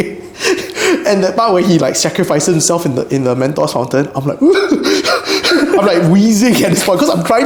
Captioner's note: hyperventilates